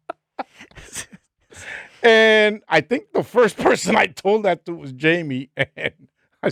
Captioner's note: laughing